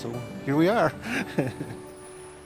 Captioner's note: laughter